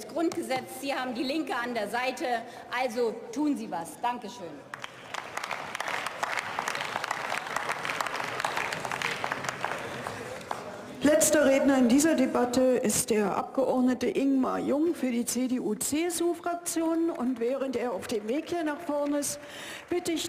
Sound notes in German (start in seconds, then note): 4.7 Beifall